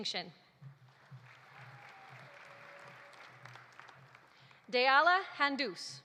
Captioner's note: audience applauding